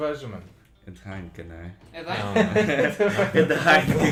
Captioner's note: laughts